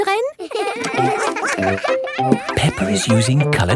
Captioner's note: all giggling